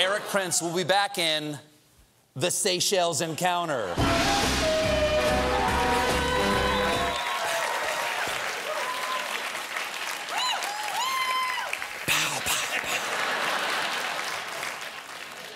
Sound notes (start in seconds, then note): 2.5 applause; 12.7 laughter